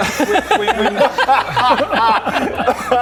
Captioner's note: rebellious laugh